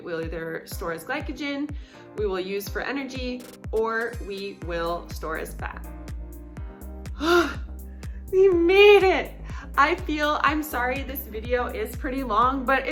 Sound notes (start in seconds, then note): 7.1 sighs